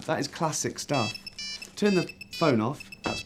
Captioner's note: phone rings